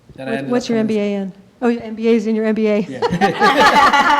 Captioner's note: laughing